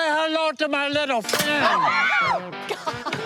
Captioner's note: screams